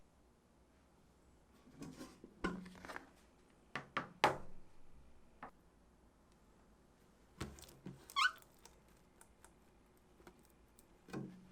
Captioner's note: folding